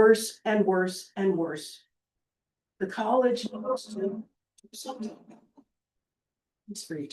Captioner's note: audio cuts